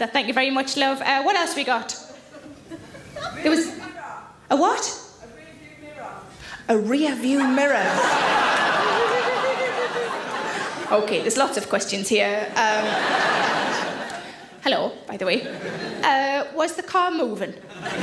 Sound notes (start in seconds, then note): 2.2 audience giggle; 7.3 audience laughs; 12.4 audience laugh